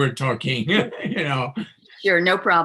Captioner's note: laughs